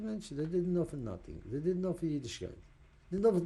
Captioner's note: yiddish